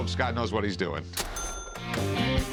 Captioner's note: cash register rings